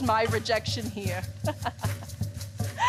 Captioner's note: Medea laughs